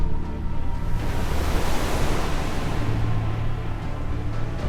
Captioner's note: waves crashing